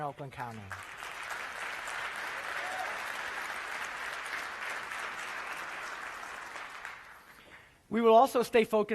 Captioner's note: applause